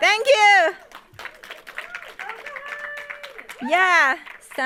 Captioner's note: audience applauding and cheering